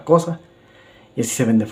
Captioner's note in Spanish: Silencio